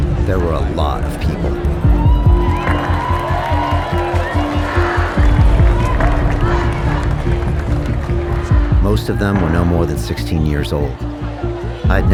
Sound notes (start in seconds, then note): 1.2 group cheering